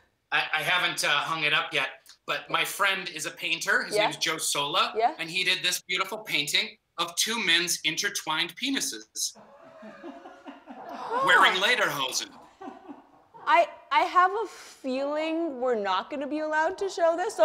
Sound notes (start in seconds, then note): 9.4 laughter